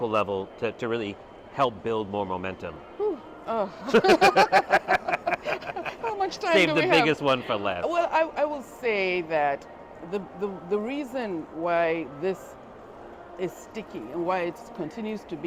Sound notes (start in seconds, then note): 3.8 laughing